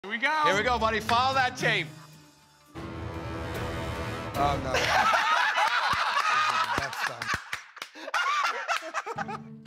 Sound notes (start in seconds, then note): 2.6 ominous music plays; 4.7 laughter